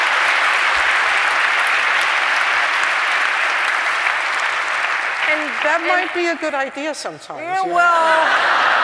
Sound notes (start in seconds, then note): 0.0 applause; 8.0 laugther